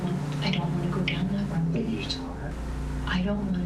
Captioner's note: whispering